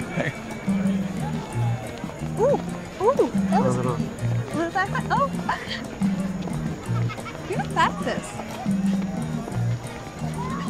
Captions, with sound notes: - Ooh, ooh! (exclaiming) You're not bad at this!